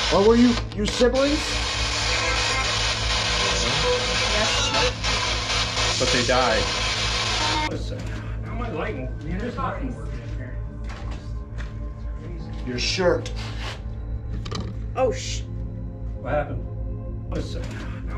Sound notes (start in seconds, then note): 1.0 radio noise hissing continues; 9.0 crew speaking softly